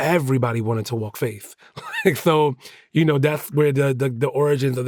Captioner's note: chuckles